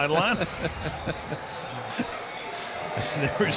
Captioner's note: laughs